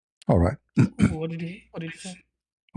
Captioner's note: clears throat